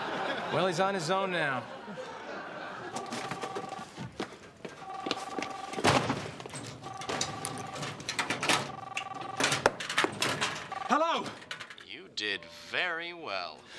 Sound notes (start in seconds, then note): 2.8 phone ringing